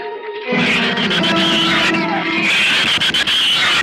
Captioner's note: shrews screech